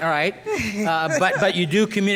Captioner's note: laughs